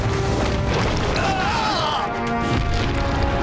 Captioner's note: groaning